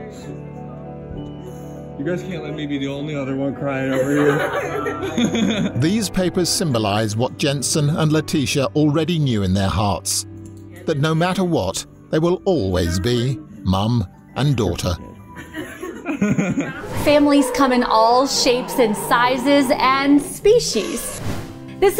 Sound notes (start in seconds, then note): 3.9 laughing